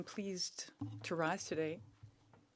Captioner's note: speaking French